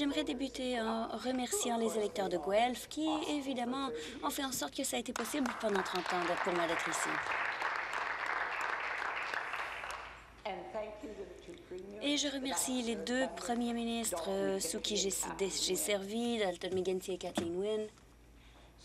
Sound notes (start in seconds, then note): 8.1 applause